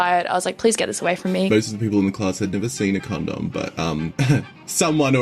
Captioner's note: coughs